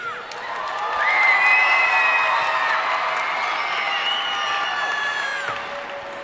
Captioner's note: audience cheering and applauding